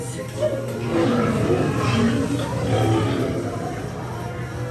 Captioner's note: dandelion roaring